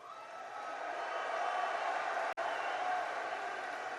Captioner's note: applause